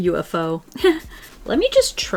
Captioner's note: laughs